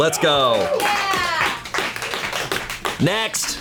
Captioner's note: colleagues applauding